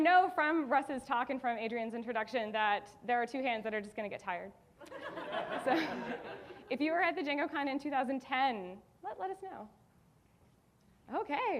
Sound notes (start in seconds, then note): 4.9 audience laughing